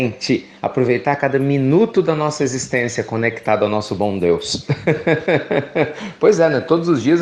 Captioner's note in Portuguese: Risos